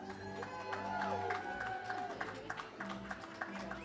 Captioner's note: audience cheers